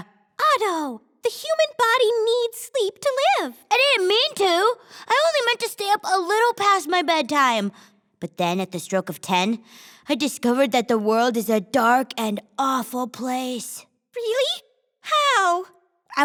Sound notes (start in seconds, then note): none